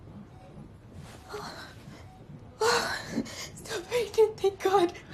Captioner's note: gasping